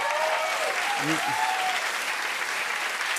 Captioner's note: cheers and applause